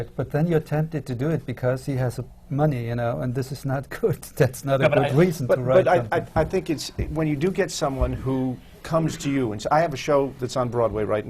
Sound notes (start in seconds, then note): 5.8 laughs